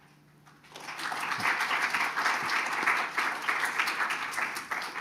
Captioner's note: audience applauding